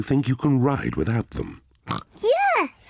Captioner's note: snorts